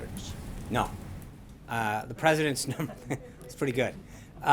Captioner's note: laughter